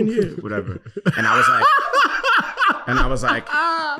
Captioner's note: laughing